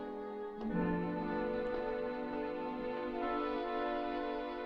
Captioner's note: none